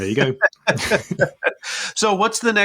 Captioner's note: both laugh